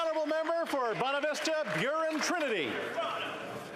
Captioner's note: applause